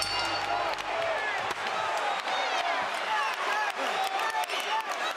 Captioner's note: bell rings; crowd shouts